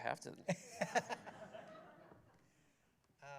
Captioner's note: laughter